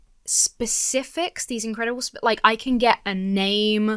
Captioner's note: none